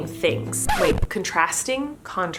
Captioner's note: record scratch